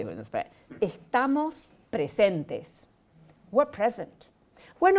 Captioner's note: speaking Spanish